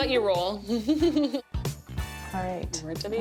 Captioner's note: laughing